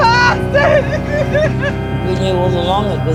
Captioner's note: sobbing